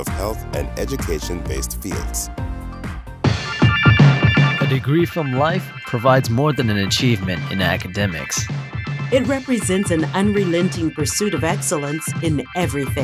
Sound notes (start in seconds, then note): 4.7 deep Voice